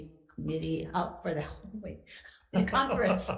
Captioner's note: person laughs